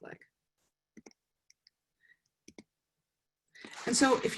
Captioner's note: mouse clicking